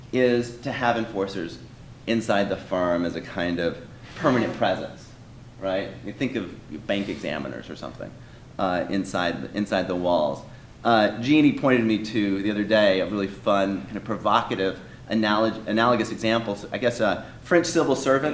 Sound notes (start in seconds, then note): none